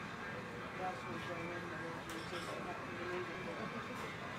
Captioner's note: indistinct chatter